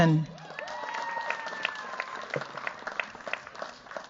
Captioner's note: cheers, applause